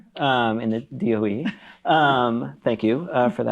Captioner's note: chuckles